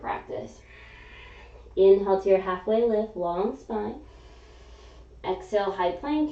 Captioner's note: exhaling